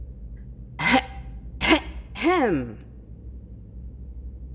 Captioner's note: loudly clear throat